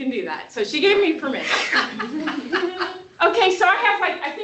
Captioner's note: laughter